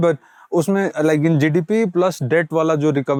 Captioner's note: speaking in Hindi